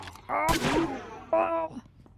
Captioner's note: gunshot